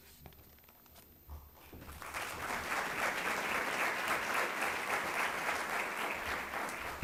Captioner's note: applause